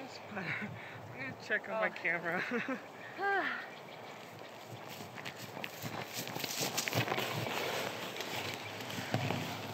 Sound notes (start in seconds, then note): 2.3 laughing; 3.0 sighing